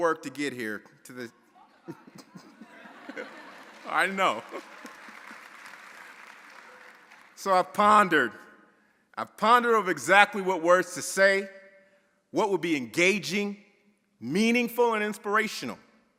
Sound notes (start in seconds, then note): 1.8 audience chattering; 5.1 audience applauding